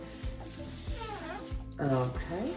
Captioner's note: leaf squeaking